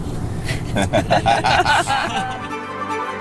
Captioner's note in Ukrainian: сміються